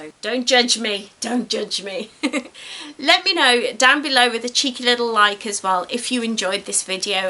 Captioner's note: giggles